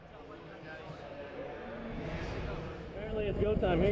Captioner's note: crowd mummuring